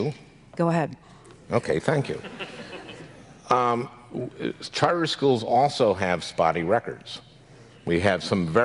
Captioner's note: audience laughs